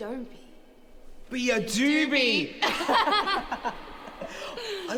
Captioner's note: laughter